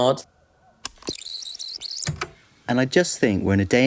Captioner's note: the tape whirrs fast forwarding and then plays